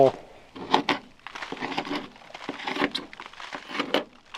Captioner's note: tool scraping